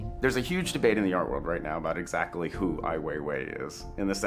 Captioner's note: none